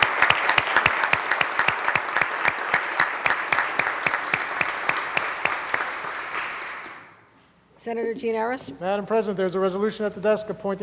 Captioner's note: applause